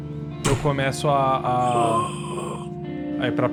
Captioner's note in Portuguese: Grunhidos